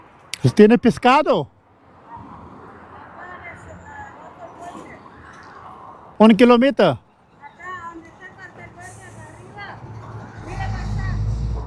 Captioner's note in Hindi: स्पेनिश में बोलते हुए